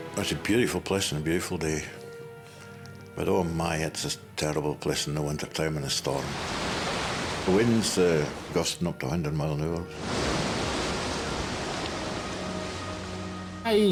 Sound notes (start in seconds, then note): 6.1 waves surging; 9.9 waves crash in